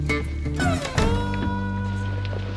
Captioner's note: door closes